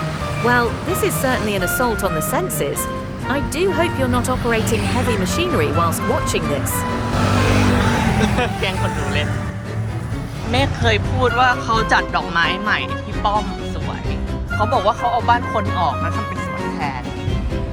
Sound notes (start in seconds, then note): 7.1 laughs